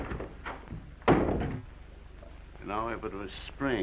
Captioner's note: footsteps receding; door bangs